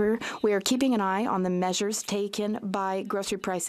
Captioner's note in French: voix de l'interprète